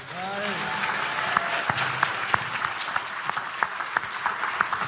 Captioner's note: audience applauding